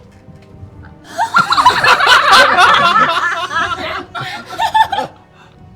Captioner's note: laughing